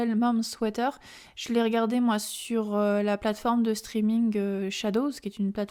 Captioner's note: french